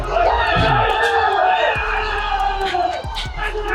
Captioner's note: CFO staff cheering